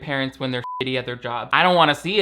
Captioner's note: beep